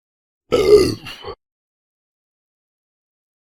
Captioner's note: burp